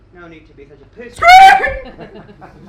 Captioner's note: screams/ Squeaks again!